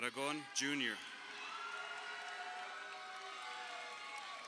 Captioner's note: crowd cheering